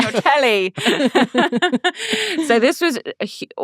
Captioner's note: everyone laughing